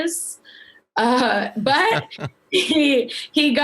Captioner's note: laughing